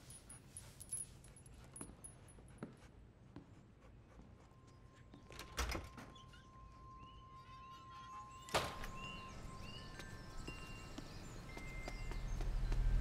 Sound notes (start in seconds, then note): 5.3 door opens; 7.4 windchime, birds chirping, wind rustling tree branches